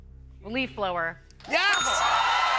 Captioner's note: cheers and applause; ding